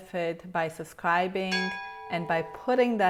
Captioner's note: bell ringing